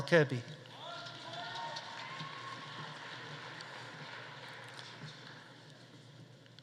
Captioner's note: audience cheering; audience applauding